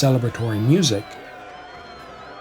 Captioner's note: spirits cheering